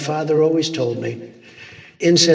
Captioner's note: trump inhaling deeply